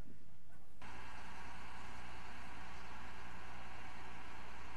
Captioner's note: crane cranking